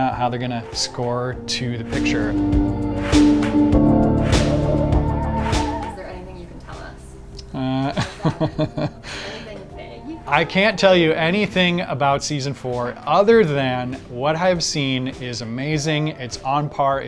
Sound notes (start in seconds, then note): 7.5 laughs